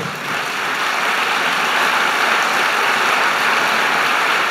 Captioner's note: applause